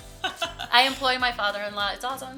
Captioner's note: laughing